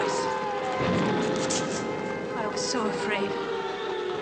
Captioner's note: bombing Continues